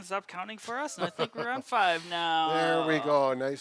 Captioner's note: chuckling